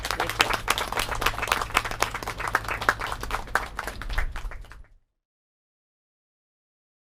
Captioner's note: applause